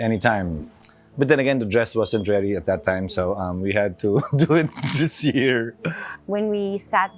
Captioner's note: laughs